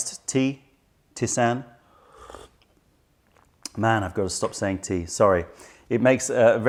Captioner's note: sips tisane